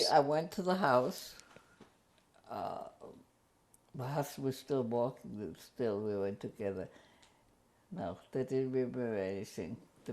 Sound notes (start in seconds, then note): 1.1 pauses for 3 seconds